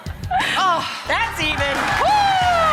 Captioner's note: applause